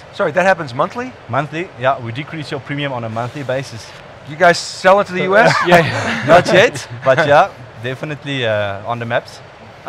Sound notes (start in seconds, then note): 5.3 laughing; 5.3 laughs